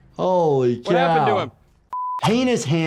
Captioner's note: screen beeping